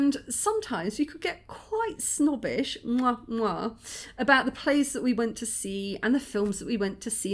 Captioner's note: mwah mwah